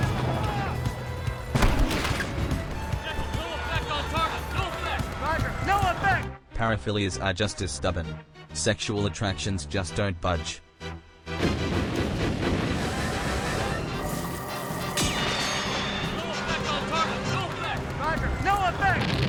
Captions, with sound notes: - General, no effect on target! No effect! - Roger. No effect! *BLAM BLAM BLAM BLAM* *HAHAHA FORCE FIELD GOES PING* - No effect on target! No effect! - Roger. No effect!